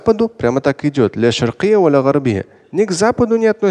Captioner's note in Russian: говорит на арабском